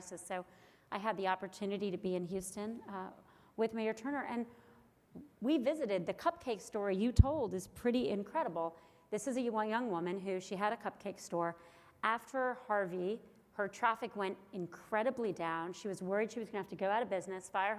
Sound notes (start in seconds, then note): none